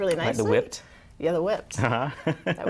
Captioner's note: laughter